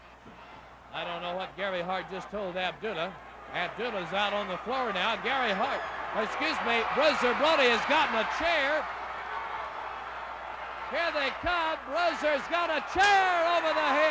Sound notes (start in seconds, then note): 8.9 crowd cheering; 8.9 crowd yelling